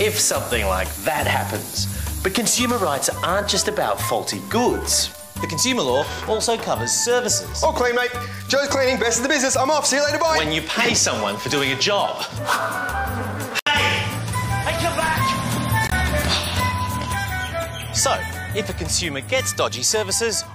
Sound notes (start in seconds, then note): 15.3 flies buzz